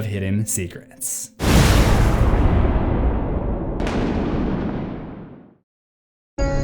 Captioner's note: thunder